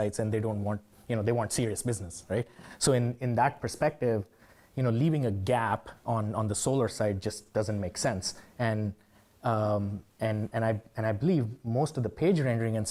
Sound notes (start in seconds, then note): none